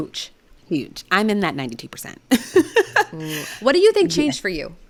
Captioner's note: laughing